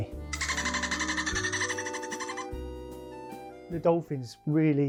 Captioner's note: dolphin chatters